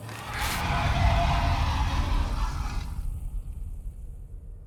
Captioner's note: distorted shrieks